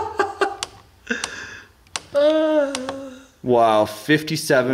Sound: clicking

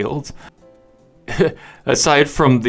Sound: chuckle

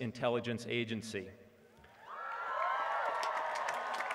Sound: applause

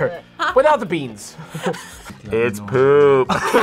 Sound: both laugh

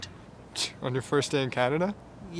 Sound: Diego scoffs

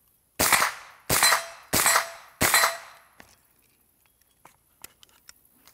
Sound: gun firing and hitting plate repeatedly

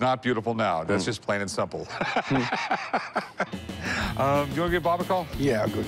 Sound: laughs

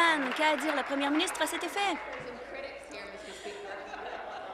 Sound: applause

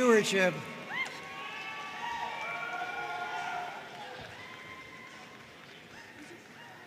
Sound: audience cheering and applauding

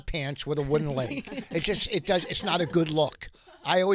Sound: laughing

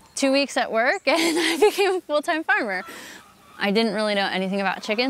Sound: chuckles

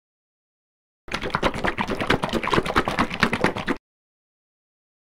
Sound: sound of liquid

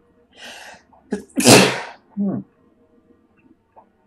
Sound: sneezes

